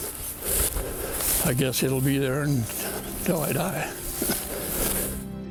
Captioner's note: laughs